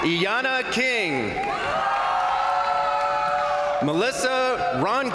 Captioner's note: crowd applauding; crowd cheering; crowd applauding